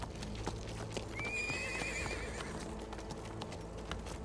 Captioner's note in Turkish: At nalı sesleri; At kişneme sesi